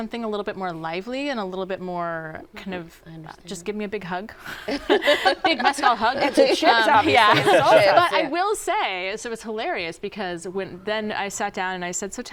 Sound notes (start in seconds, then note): 4.4 laughter